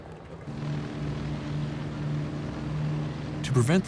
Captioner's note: plane engine hums